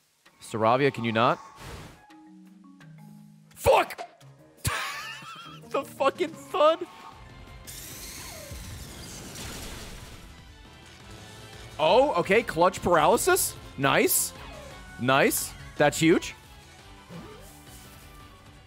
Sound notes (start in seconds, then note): 4.6 laughs